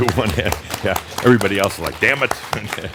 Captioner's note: audience now joins in applause; starts clapping; chuckles